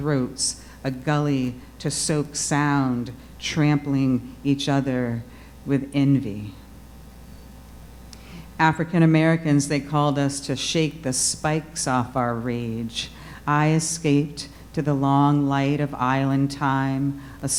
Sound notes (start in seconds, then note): none